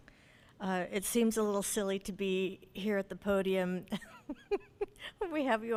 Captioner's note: laughs